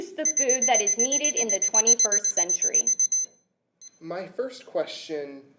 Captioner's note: beeping sounds